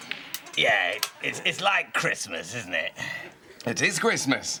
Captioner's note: snooker balls click